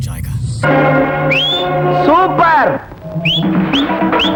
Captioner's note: whistling in a frenzy